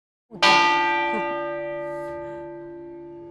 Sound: bells chiming

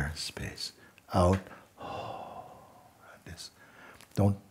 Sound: long exhale

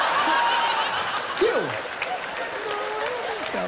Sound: laughter

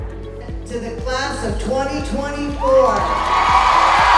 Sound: cheering

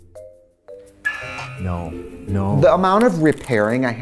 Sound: buzzer

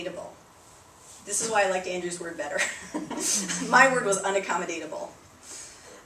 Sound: laughter

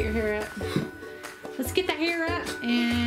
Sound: gasp

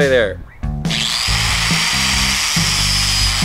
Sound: skill saw whirring

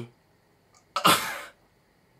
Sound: shocked chuckle

